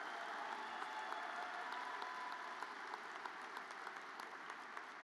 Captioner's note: audience applauds